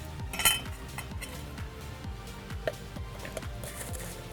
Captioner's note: spoon clinking